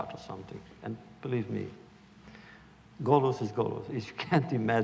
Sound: Yiddish

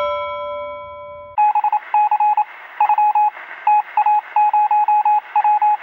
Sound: bell rings; morse code beeps

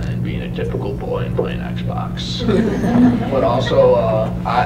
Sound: laughter

